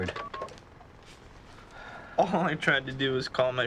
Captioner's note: phone beeping